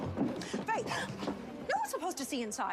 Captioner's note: gasps